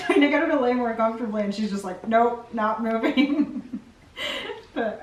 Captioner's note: laughs